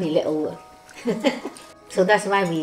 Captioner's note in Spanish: Risas